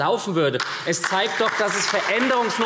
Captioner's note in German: Beifall SPD